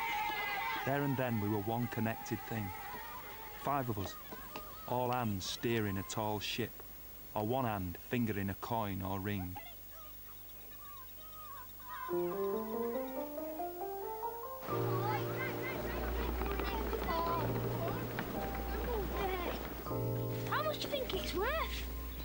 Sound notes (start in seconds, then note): 9.5 birds tweeting in background